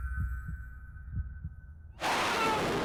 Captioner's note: slow motion thump of hearts pounding